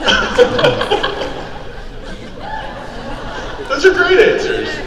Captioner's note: Ming-Na laughing